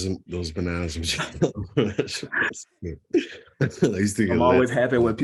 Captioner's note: chuckle